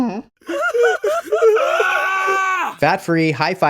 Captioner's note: person grunting and screaming